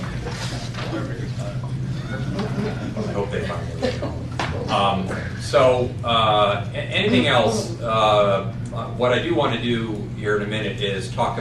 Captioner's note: laughter